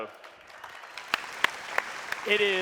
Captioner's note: audience applause